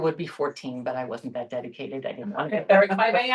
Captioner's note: laughter